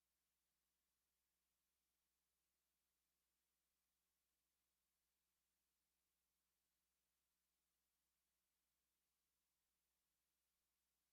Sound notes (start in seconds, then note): none